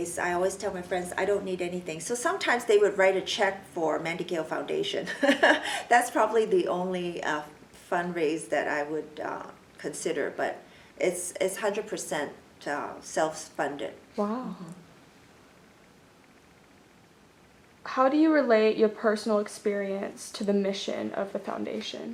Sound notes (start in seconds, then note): 5.2 laughs